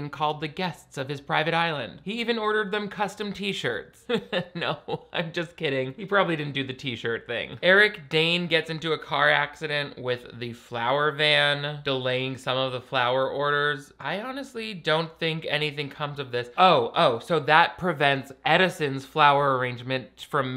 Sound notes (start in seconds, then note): 4.0 laughs